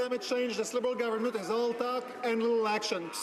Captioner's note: some Applause